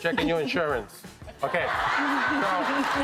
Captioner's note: audience laughing